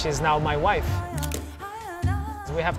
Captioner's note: camera click